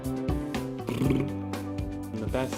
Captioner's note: upbeat music; blows raspberry